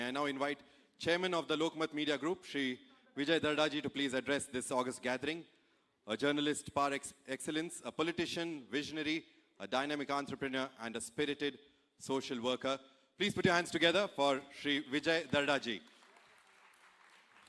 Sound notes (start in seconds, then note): 5.1 speaks in Hindi - not transcribed; 15.0 applause